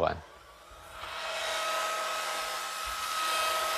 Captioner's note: whirring saw noises